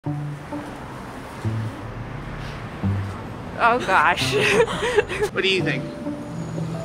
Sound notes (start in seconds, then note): 4.2 laughs